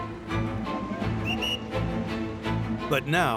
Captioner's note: whistle blows